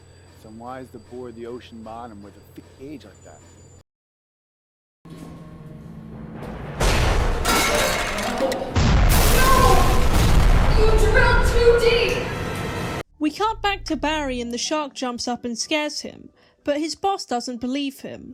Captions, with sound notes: it’s unwise to bore into the ocean bottom with a thick gage like that.” [crashes] “OH NO! YOU DRILLED TOO DEEP!” We cut back to Barry and the shark jumps up and scares him, but his boss doesn’t believe him,